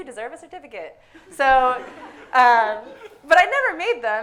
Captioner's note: audience laughing